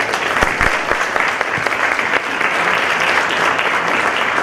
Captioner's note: applause